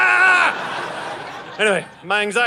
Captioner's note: audience laughing